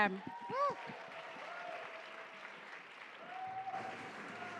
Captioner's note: cheering and applause